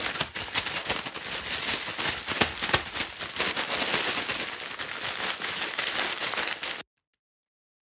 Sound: bag crumpling

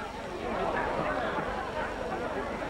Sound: chatter

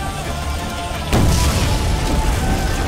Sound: bomb explodes

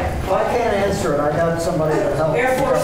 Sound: laughter

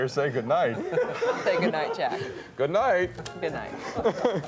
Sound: laughter

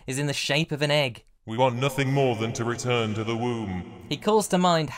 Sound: pitch-shifted downwards and reverberating

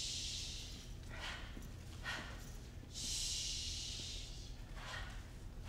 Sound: harsh breaths; harsh breaths

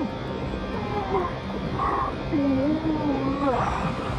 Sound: muffled grunting

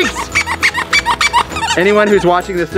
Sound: toys squeak

